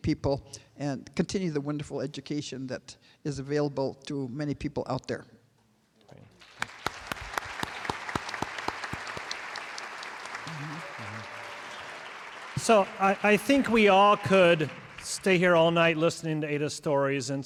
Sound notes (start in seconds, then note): 11.7 applause